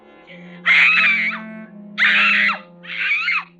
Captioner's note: screaming